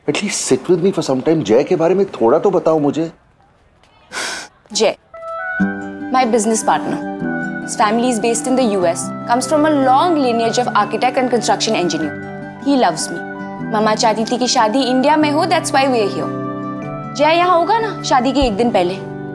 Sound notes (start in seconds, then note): 4.0 Gasps